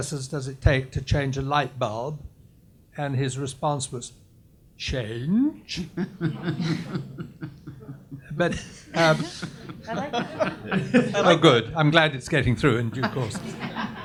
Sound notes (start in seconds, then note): 5.9 audience laughs; 8.8 murmurs